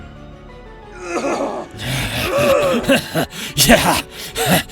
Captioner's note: Jackson screams in pain